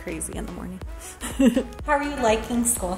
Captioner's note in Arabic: ضحكات خافتة من الكريستال